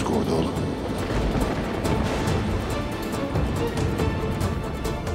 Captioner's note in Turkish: Gök gürültüsü efekti